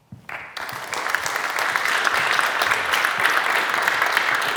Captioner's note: audience clapping